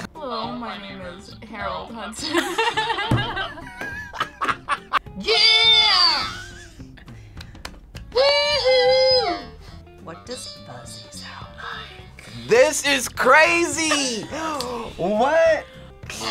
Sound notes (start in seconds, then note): 2.2 both laugh